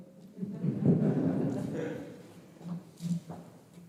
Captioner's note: audience laughing